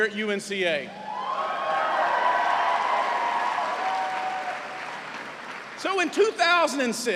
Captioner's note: cheers and applause